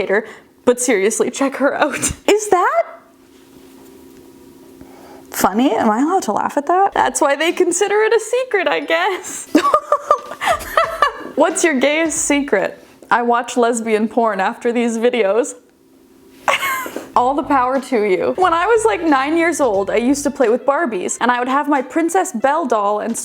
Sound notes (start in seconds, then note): 9.5 laughing; 16.4 chuckling